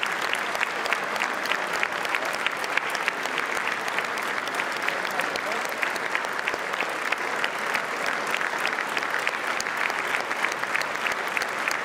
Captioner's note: applause